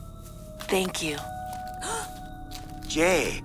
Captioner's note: Jae gasps